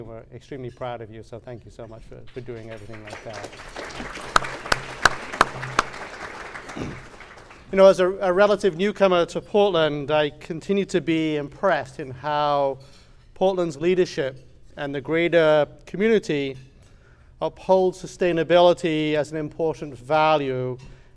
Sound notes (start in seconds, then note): 3.9 clapping